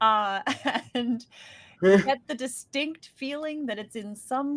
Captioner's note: chuckles